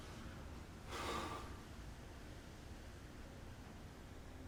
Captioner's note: friend exhales